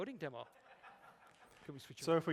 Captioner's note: laughter